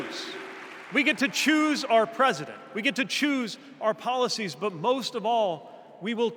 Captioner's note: applause